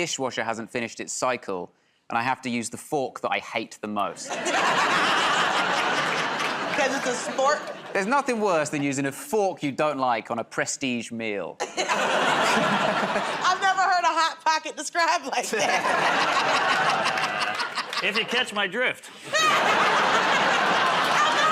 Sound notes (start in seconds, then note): 4.2 laughter; 15.4 laughter